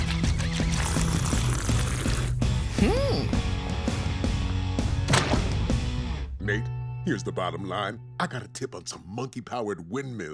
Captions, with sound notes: [pimple slurping] Mm. Nate, here's the bottom line. I got a tip on some monkey powered windmills